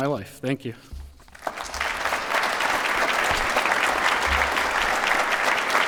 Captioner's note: applause